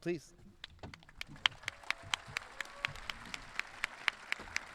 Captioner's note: audience clapping